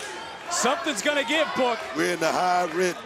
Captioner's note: crowd chants "roxy"